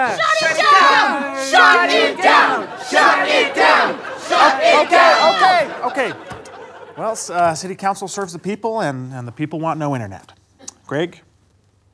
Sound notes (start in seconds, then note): 1.8 chanting